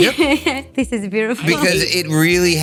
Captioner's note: chuckling